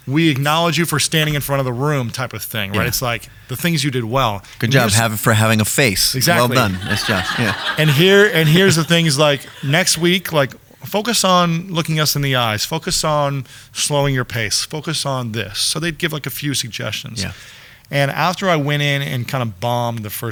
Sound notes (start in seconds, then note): 6.2 audience laughing